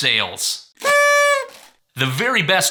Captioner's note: party blow horn whistling